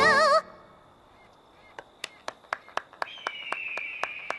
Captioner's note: clapping